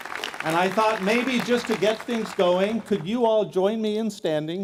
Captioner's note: applause